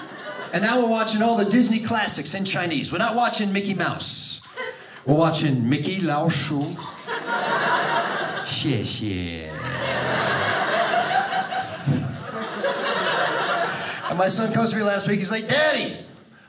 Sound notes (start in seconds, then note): 6.1 speaking Chinese; 7.3 audience laughing; 8.5 speaking Chinese; 10.1 audience laughing